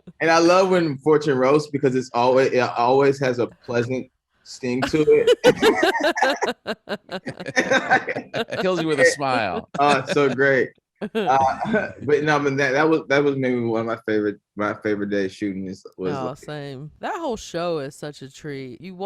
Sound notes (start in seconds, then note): 4.8 laughing